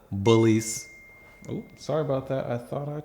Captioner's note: phone chimes